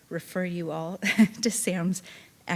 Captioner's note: chuckling